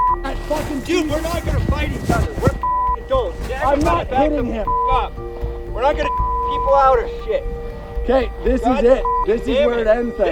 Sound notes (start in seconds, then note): 0.0 beep; 2.6 beep; 4.6 beep; 9.0 beep